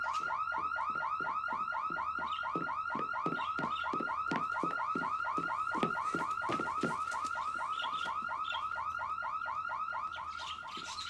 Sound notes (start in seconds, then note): 3.1 birds chirping